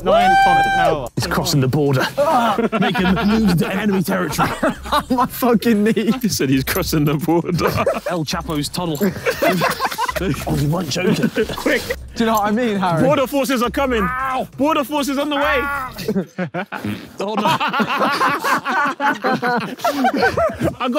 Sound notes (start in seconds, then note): 2.4 Tobi laughing; 8.8 Vik and Tobi laughing; 15.4 laughs; 16.9 Harry farting; 17.7 Vik and Tobi laughing